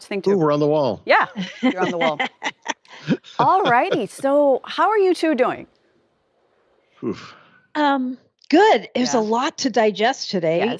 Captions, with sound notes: ESPN SPORTS THING TOO. >> WE'RE [ LAUGHTER ] >> ALL RIGHTY, SO HOW GOOD. IT WAS A LOT TO DIGEST TODAY.